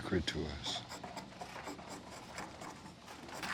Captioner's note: scraping wood